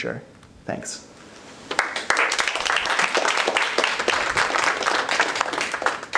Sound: applause

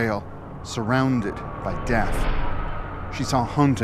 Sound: wind howling

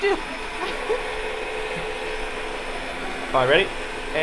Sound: ice cream maker whirring

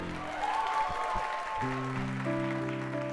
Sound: applause

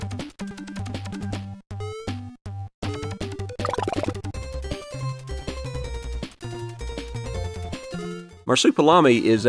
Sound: game sounds

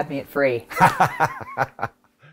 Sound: laughter

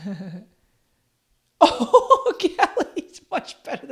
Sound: laughs

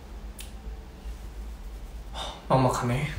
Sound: scratching

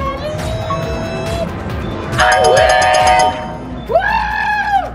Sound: winning arcade sound

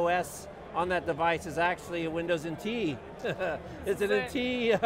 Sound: chuckle

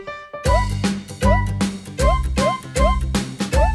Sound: boings

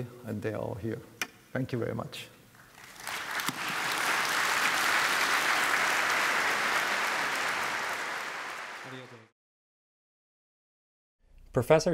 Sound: applause

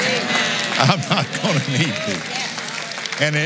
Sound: applauds

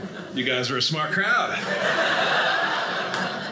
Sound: audience laughing

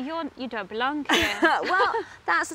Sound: laughs

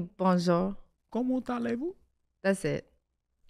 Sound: Iman speaking in French

